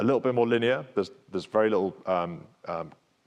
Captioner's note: speaks faintly